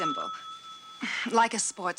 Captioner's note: phone rings